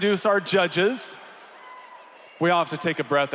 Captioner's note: applause